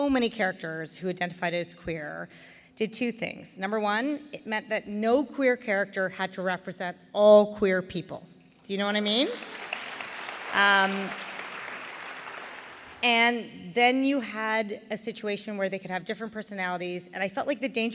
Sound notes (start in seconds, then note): 8.8 applause